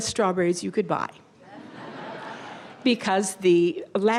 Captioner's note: audience laughter